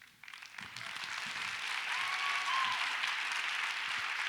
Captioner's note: audience applauds